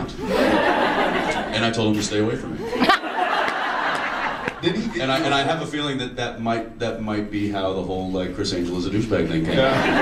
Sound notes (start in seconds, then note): 0.1 audience laughs